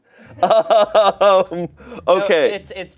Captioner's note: laughs